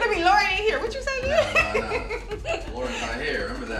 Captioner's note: continues laughing